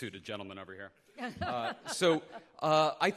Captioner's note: chuckling